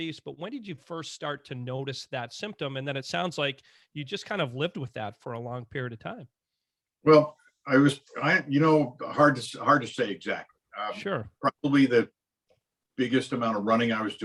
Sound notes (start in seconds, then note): none